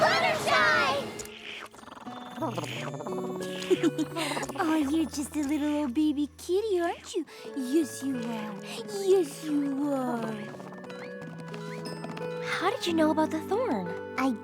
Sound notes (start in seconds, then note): 1.7 purrs; 3.0 laughs